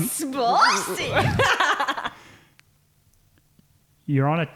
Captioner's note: laughing